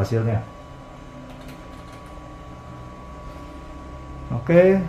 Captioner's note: keyboard noise